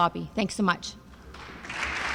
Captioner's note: applause